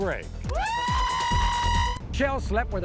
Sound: screaming

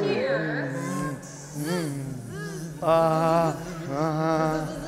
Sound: insect buzzing

